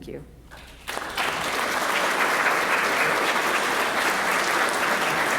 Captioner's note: audience applauds